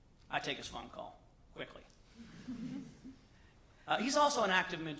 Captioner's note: laughter